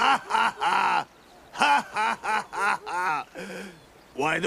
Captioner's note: laughter